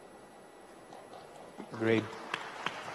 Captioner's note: audience applauds